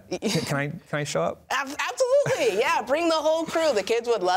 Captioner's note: laughs